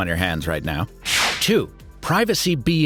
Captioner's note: air whooshing